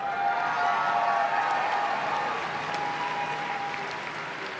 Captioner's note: applause and Cheering